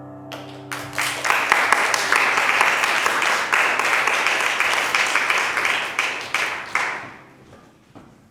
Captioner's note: applause